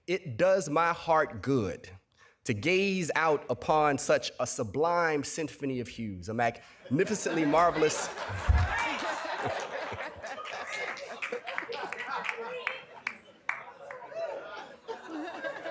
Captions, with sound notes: it does my heart good to gaze out upon such a sublime symphony of hues, a magnificently marvelous-- [laughter] [applause and cheering]